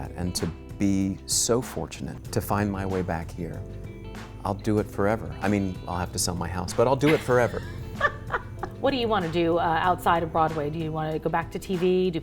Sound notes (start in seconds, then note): 7.0 laughs